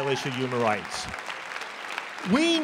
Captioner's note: applause